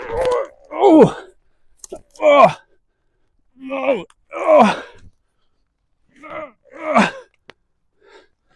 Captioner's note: grunting; more grunting